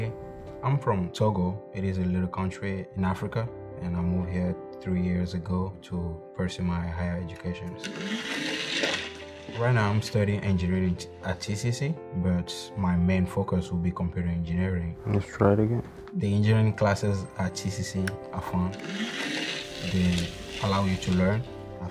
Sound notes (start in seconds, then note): 7.8 motor accelerating; 18.6 motor accelerating